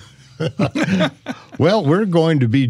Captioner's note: laughing